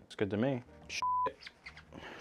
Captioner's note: beep